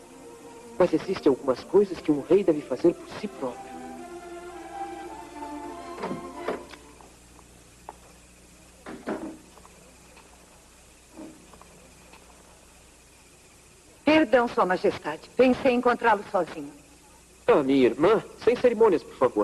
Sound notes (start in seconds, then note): 5.9 door opens